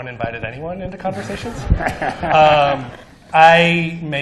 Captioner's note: laughter